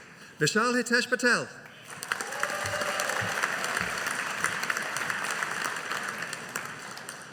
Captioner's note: audience applauding